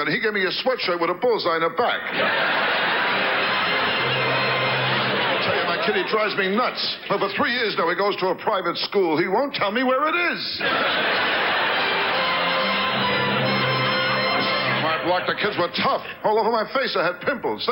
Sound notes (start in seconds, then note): 2.0 audience laughs; 3.0 orchestra riffs; 10.6 audience laughs; 11.3 orchestra riffs